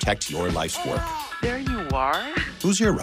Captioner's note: heartbeat